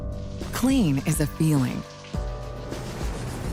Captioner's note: voiceover